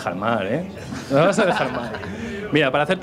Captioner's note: laughs